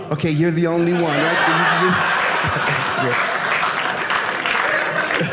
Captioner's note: audience laughing